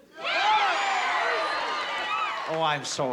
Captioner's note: cheering